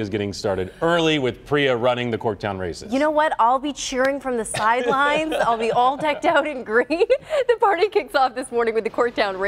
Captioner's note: laughter